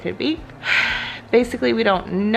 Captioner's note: sighs